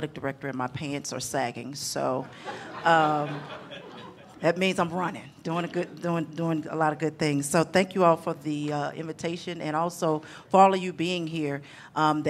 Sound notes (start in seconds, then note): 2.3 audience laughing